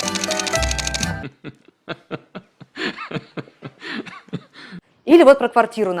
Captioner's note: laughs jealously